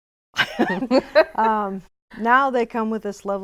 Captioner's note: laughing